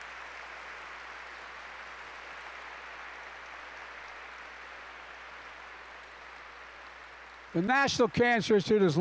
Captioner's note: applause